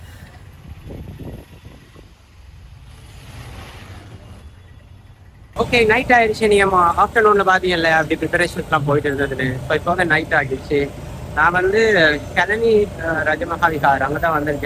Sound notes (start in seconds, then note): 12.3 crying sound in background